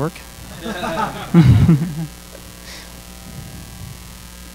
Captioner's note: audience laughing